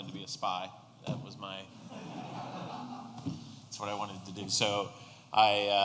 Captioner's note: laughter